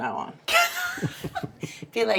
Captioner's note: laughing